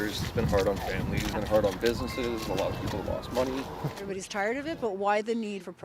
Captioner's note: horns honking